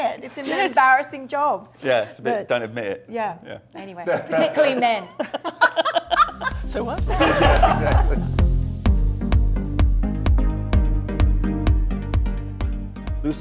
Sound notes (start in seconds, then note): 4.1 laughs; 8.6 light techno music